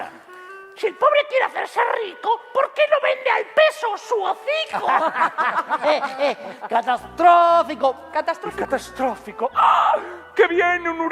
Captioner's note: laughter